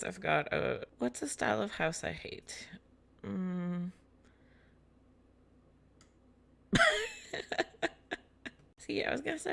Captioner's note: bursts out laughing